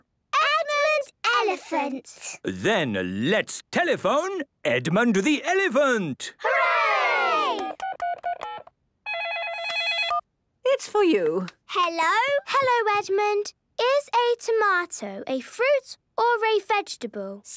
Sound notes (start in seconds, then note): 9.1 dial tones beeping; 9.2 ringing